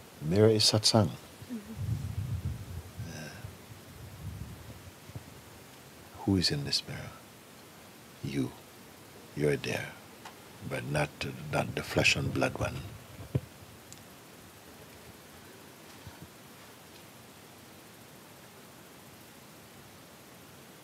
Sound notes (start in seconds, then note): 14.7 Stille